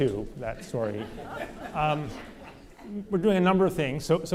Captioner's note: audience laughter